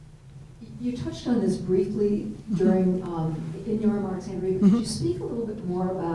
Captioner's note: faintly speaking